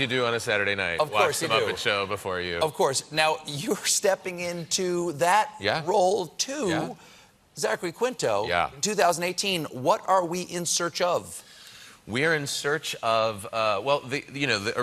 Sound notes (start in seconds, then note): none